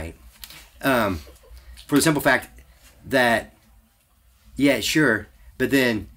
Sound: laughs

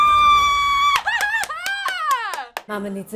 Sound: girl shouting joyously

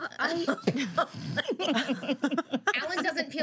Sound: girls laughing

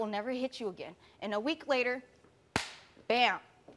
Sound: slaps hands together

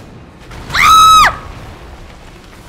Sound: scream

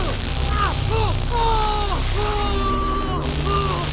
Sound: struggling; screams

